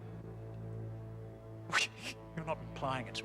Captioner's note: sputters